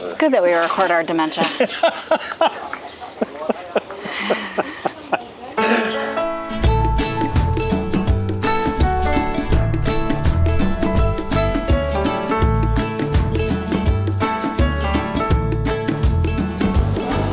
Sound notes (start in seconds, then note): 1.4 laughter